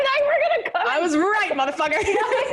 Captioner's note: laughs